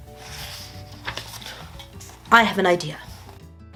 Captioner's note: paper rustling